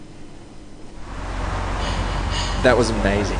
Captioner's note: traffic rumbling quietly